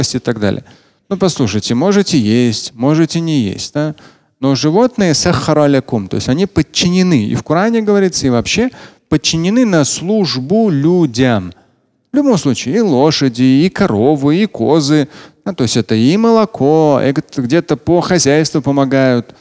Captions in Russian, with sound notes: и так далее. Ну, послушайте, можете есть, можете не есть, но животные [говорит на арабском], то есть они подчинены. И в Коране говорится и вообще. Подчинены на службу людям. В любом случае, и лошади, и коровы, и козы. Ну, то есть – это и молоко, где-то по хозяйству помогают.